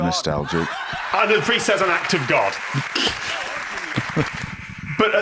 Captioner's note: laughs